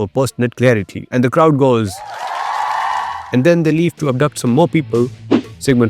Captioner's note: cheers